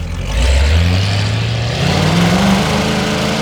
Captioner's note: engine noise